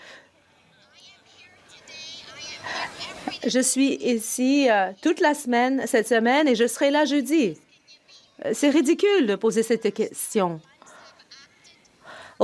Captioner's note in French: voix de l'interprète